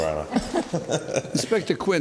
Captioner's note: laughs